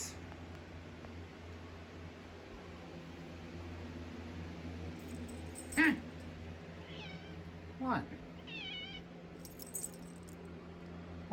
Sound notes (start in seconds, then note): 6.8 meows